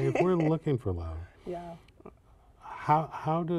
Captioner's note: laughter